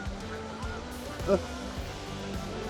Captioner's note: goose chatter